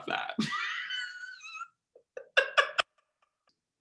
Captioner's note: laughing